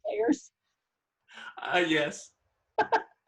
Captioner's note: laughs